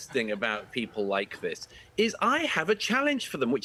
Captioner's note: laughter